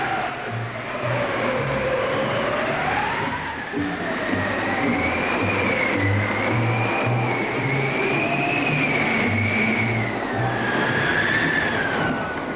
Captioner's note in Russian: крик